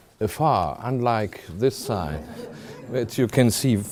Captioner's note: audience laughs at the slide displaying the Hollywood sign